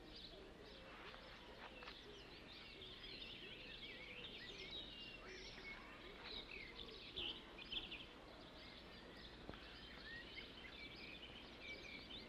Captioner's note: birds singing